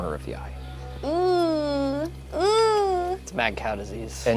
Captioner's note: groaning